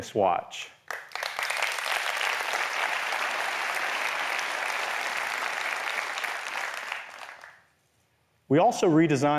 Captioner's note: applause